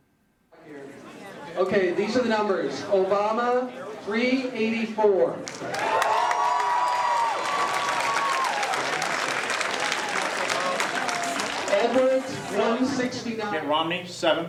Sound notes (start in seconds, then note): 5.4 cheers and applause